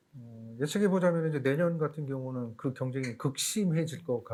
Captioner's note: speaking korean